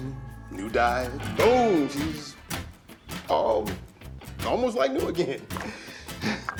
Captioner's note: sighs